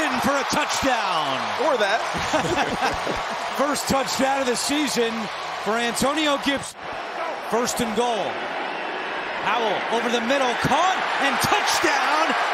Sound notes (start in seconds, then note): 2.1 laughter